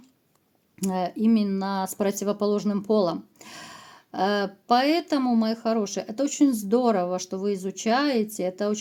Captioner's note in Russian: тяжело вздыхает